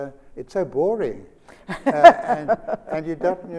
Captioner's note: Sonia laughs